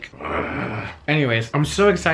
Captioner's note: groans